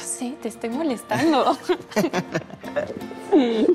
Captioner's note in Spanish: Risas